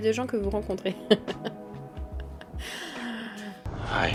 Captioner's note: laughs